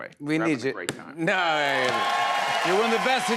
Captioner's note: cheers and applause